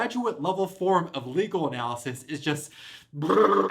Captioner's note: eldritch screaming